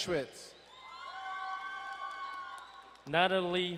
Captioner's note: crowd cheering and applauding